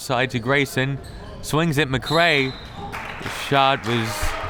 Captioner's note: whistle tweeting